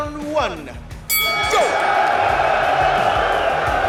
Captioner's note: bell dings; cheering